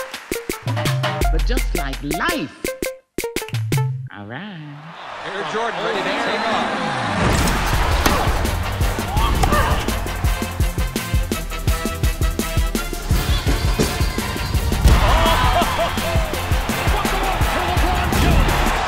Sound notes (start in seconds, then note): 9.6 grunting; 15.0 laughs